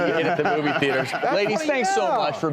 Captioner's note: laughing